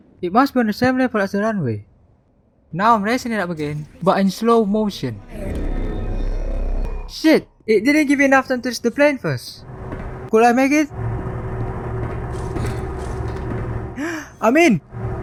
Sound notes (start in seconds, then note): 14.0 haa